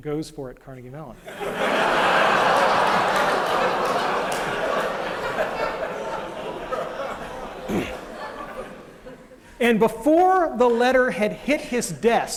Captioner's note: laughter